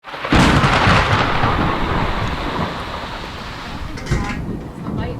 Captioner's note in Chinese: 雷聲轟隆和風聲呼嘯